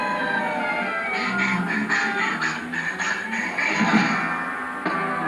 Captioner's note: wind Blowing; panting